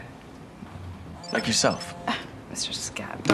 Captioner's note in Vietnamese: chuông đổ